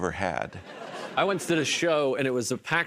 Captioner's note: laughter